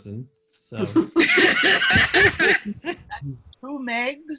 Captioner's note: laughing